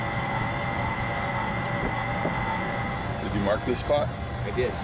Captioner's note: engine revving